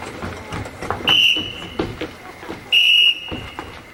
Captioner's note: whistles